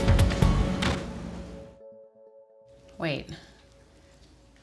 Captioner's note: bluegrass music; door slams